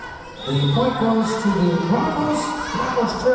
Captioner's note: whistle blowing